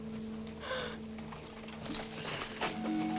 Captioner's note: gasp